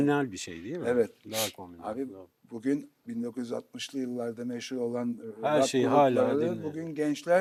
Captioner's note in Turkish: homurdanır